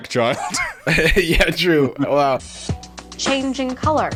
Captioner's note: laughing